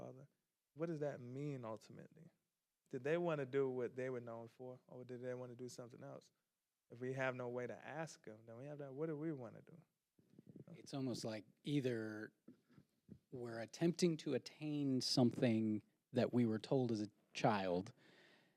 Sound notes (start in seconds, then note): none